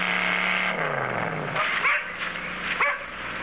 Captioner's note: dog Barking